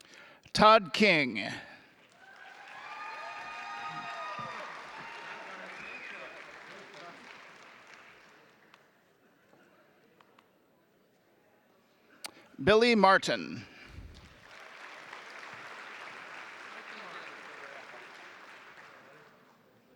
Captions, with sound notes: Todd King. (audience clapping) (audience applauding) Billy Martin. (audience applauding)